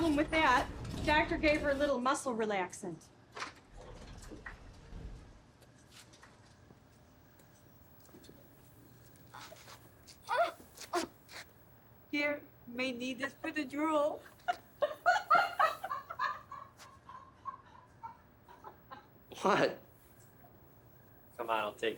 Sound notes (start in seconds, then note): 14.8 laughter